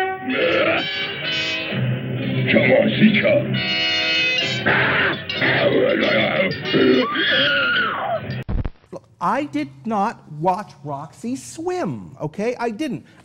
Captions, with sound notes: (startled caveman grunting) (screams) I did not watch Roxie swim, okay! I didn't!